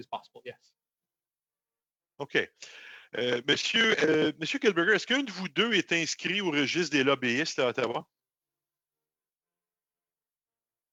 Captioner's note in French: voix de l'interprète